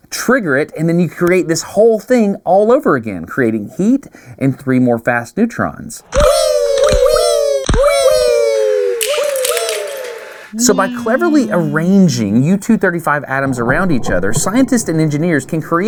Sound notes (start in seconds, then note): 9.0 mouse traps snapping